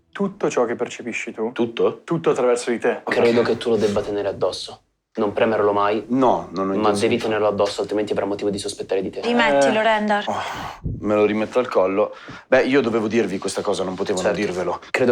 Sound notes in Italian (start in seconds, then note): 10.3 Sbuffa